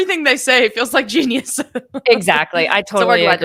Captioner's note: laughing